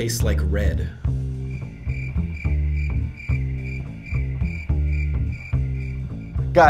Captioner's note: crickets